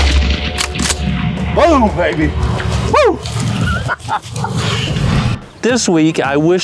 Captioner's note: laughter